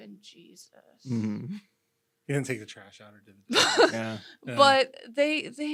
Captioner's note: guffaws